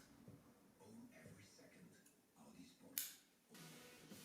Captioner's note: scissors clipping